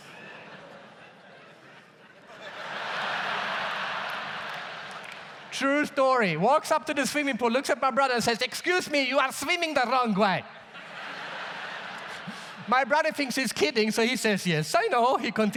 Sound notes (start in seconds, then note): 0.0 audience laughs; 2.5 audience laughs loudly; 10.5 audience laughs